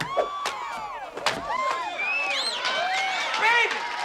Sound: cheering

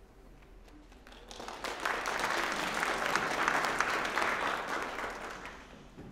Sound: applause

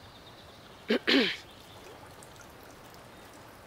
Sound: clearing throat

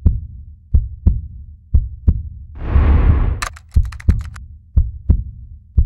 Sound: heart beating

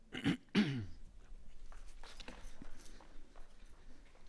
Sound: clears throat

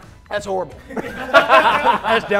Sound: laughing

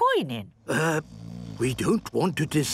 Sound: people snoring

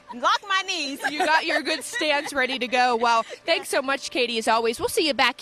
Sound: laughter

